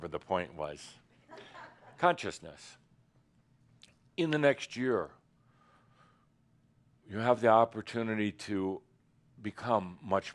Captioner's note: a few chuckles